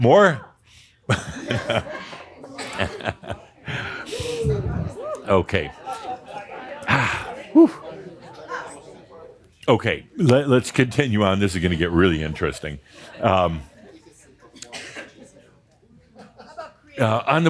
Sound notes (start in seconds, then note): 1.1 Adamus chuckles